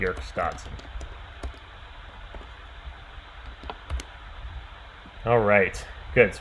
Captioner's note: keyboard clicking